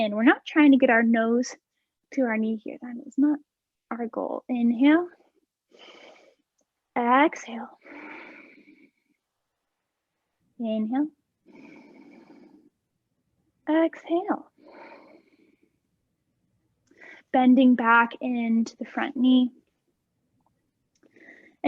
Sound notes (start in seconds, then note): 5.0 inhaling; 7.8 exhaling; 14.5 exhaling